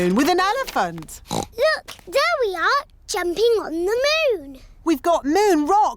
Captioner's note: oinks